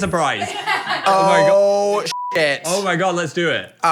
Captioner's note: beep